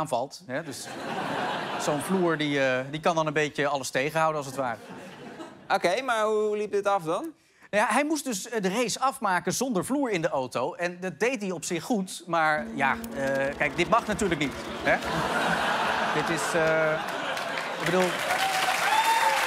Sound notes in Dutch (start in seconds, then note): 15.0 gelach; 19.2 applaus